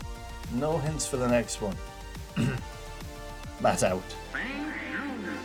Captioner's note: clears throat